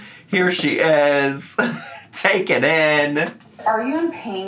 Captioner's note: laughs